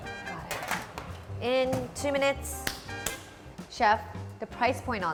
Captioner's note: clapping